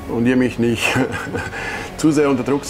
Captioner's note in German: lacht